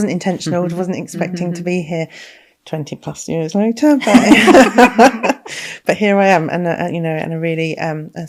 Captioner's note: laughing